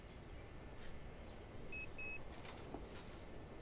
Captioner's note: faint beeping